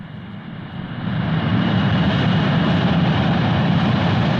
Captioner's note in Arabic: هدير الطائرة